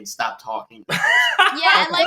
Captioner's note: laughing